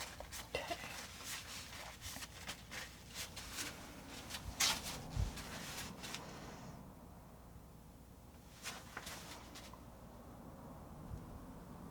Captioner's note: scratching